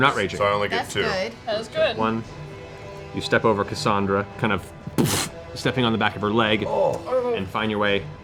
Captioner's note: impact noise